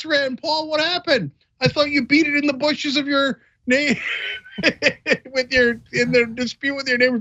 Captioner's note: laugh